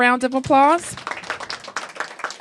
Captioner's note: applause